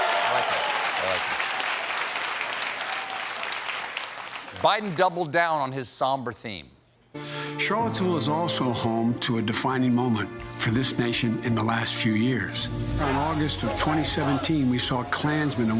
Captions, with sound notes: SAY. ( CHEERS AND APPLAUSE ) AND BIDEN DOUBLED DOWN ON THE SOMBER THEME. >> CHARLOTTESVILLE WAS ALSO HOME TO A DEFINING MOMENT FOR THIS NATION IN THE LAST FEW YEARS.